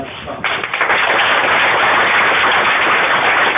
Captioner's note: clapping